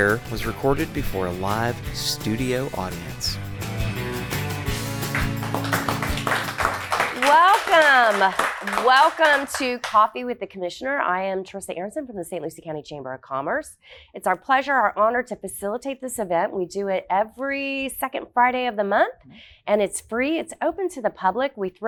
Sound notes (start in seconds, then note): 4.8 audience applause